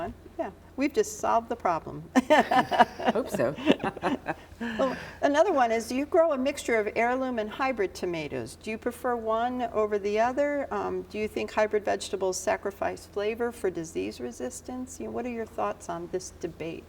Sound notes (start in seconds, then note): 2.1 chuckles; 2.2 laughs